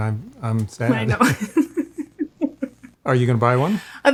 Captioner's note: laughs